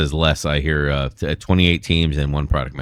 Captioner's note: uh